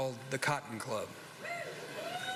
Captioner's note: scattered cheers